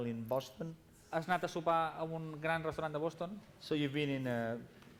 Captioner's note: non-english speech